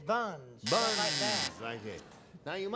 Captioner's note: buzzer